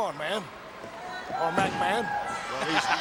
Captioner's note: laughing